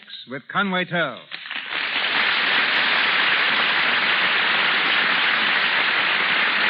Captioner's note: audience applauding